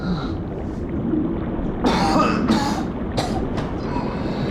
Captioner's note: water gurgling